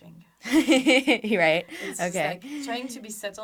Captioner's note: laughs